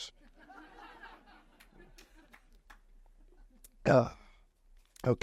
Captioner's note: audience laughs